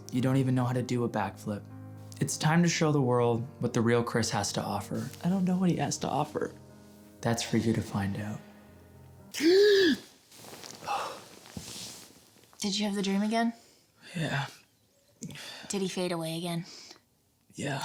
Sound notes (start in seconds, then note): 9.3 gasps